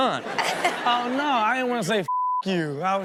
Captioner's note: Chanel laughs